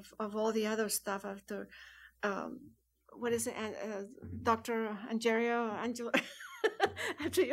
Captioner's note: laughs